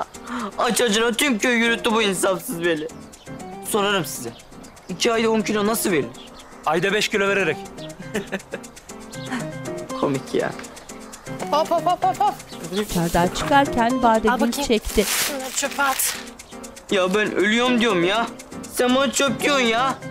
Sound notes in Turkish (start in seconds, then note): 8.0 Gülme sesi